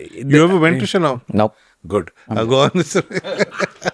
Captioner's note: laughs